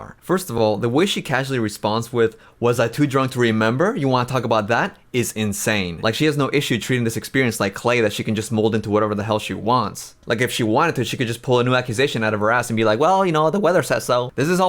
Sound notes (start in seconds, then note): none